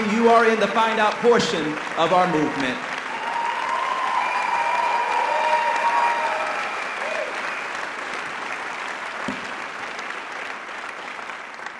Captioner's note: audience applause